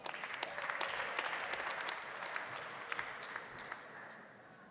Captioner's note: audience applauding